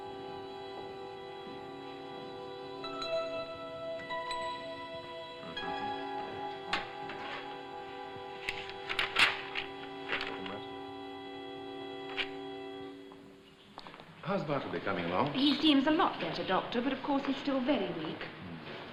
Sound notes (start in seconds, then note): 8.2 heavy paper rustling